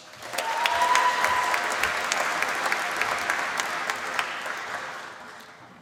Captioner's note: applause